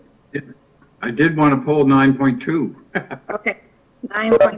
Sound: chuckles

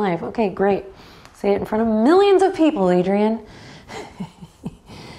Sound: chuckles

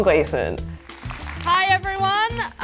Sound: applause

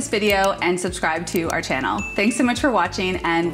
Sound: computer mouse clicks; bell rings

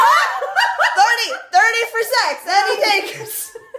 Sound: all laugh

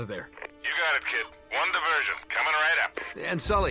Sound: radio

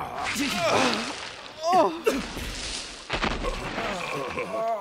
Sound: everyone else groans as they dig themselves up; grunting

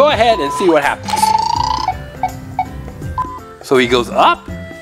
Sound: beeping

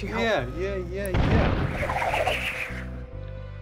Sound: boom!

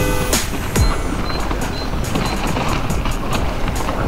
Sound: bike rattling

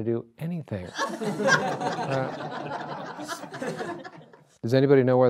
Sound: audience laughs

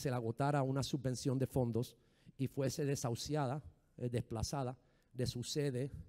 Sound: speaking in foreign language

